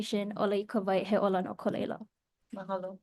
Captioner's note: speaks Hawaiian